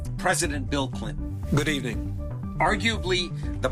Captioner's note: soundbite of archived recording